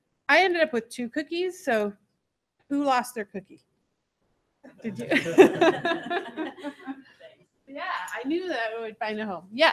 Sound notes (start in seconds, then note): 4.9 laughter